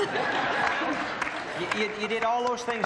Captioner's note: laughter